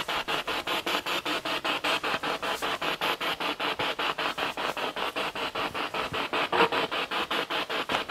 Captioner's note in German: Noise of the spiritbox in the background